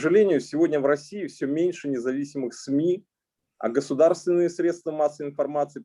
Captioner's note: speaking Russian language